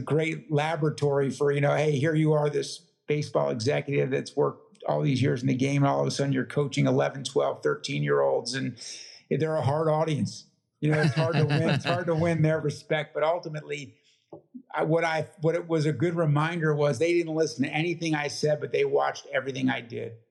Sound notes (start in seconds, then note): 10.8 laugh